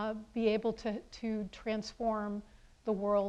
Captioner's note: none